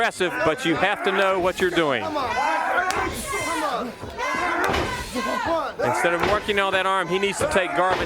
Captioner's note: crowd chatter